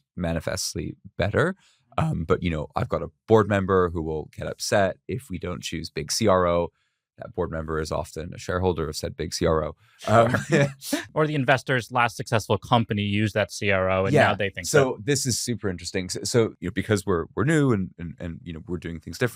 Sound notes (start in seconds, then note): 10.1 laughs